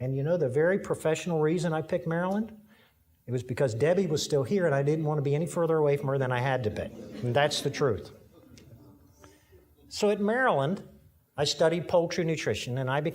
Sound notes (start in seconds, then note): 6.7 audience laughing